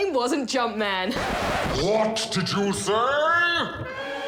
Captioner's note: record scratch